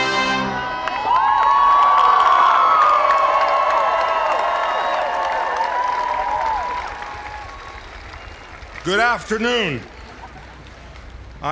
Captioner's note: applause